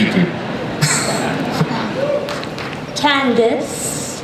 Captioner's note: Carlos laughs